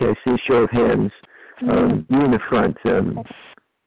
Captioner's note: chuckles